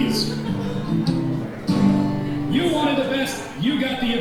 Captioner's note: audience chuckling; guitar strumming